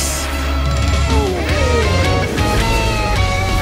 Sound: growling

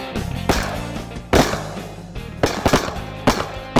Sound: gun firing

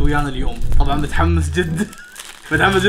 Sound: laughs

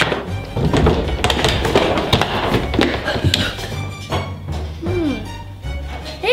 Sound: footsteps clattering; door creaks

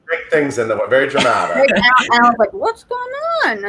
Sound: laughs

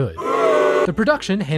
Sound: crowd booing

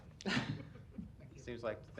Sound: laughs

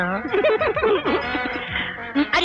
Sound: softly Laughing

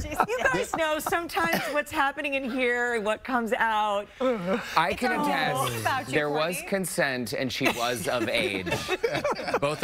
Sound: laughter

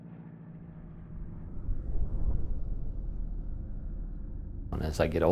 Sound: wind

